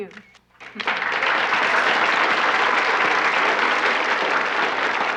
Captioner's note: audience applauding